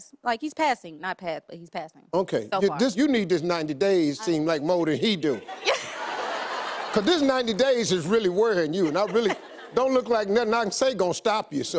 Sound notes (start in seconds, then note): 5.4 audience laughs